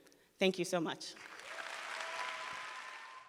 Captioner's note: audience clapping